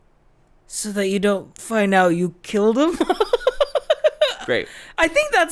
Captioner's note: laughs